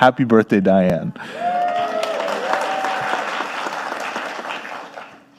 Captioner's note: audience applauding